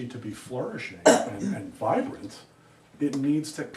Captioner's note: student coughs